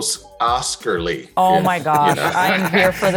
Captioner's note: laughter